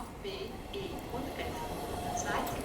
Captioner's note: train approaches